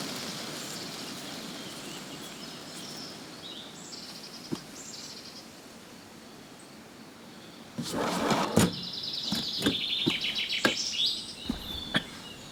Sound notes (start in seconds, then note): 7.8 window scraping